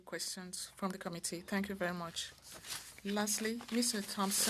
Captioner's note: speaking French